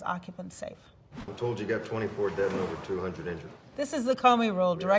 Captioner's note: male Voice